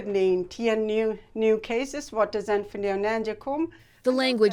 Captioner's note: speaking in Low German